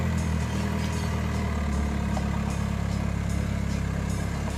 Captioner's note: car engine